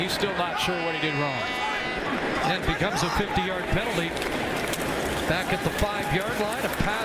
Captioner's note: booing